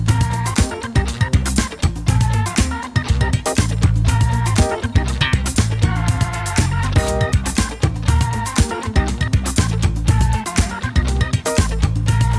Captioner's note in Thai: ปรบมือ